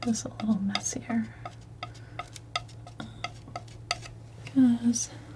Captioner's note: tapping